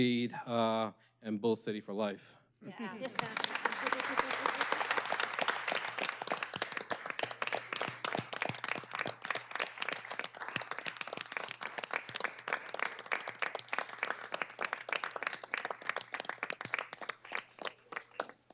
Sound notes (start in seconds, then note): 7.0 applause